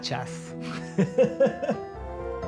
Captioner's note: laughing; inspirational Music